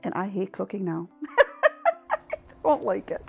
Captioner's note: laughing